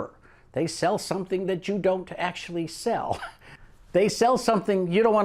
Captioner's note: giggles